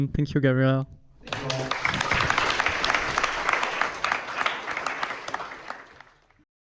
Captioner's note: audience applauding